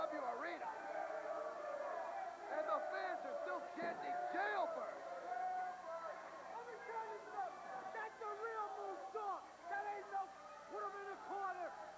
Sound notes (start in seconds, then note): 3.3 crowd cheering